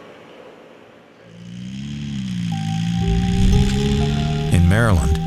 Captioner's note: car engine roaring